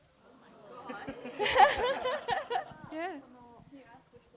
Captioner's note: laughter